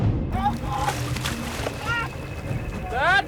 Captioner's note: splashing